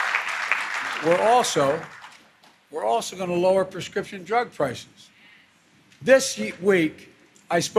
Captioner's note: applause